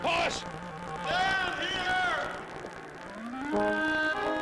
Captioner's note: echoes